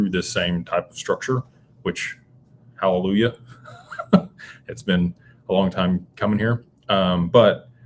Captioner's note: laughter